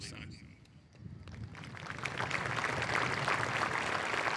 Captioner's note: applause